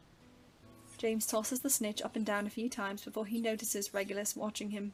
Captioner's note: Golden snitch continues to swish around